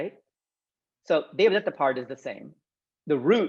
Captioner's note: speaking Sanskrit